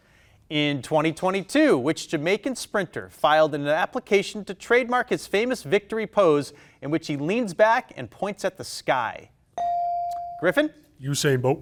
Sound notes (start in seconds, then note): 9.6 bell dinging